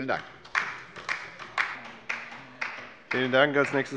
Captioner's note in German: Beifall bei der LINKEN